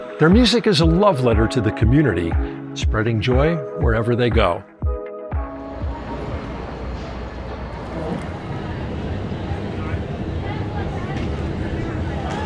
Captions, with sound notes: Their music is a love letter to the community. Spreading joy wherever they go. [ STREET NOISES ]